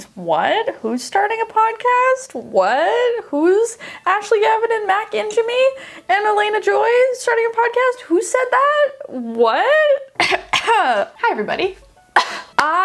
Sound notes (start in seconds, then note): 10.1 coughing; 10.1 coughs; 12.5 hands clapping